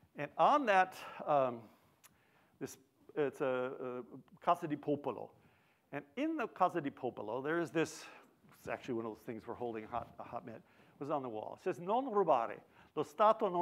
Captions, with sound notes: And on that, it's a Casa del Popolo. And in the Casa del Popolo, there is this, it's actually one of the things we're holding, a hot mitt, was on the wall. It says, (speaks foreign language).